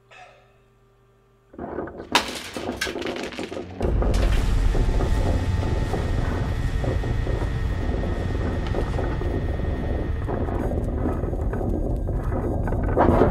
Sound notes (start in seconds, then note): 2.1 pills clattering